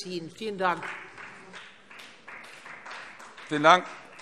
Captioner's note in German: Beifall Freie Demokraten